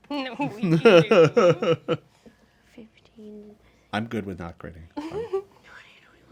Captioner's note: laughs